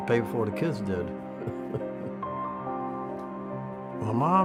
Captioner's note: laughs